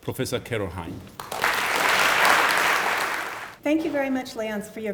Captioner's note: applause